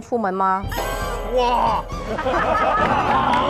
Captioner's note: A mighty shudder